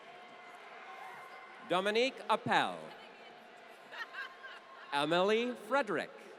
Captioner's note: laughter